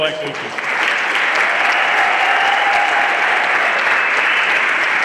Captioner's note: everyone applauding